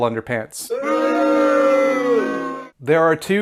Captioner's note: crowd booing